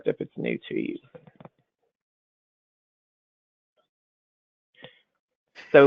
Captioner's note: silence